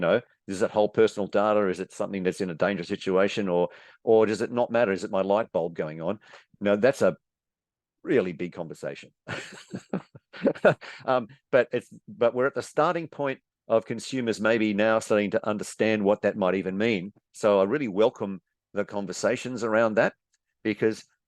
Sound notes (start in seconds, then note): 9.3 chuckles